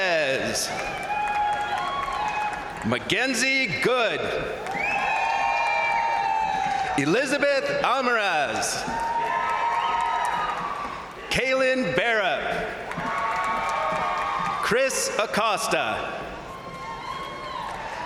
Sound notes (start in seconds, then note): 0.1 crowd cheering; 0.1 crowd applauding; 4.1 crowd cheering; 8.0 crowd applauding; 8.5 crowd cheering; 12.5 crowd applauding; 12.6 crowd cheering; 16.1 crowd cheering